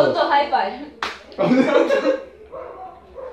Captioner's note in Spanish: Risas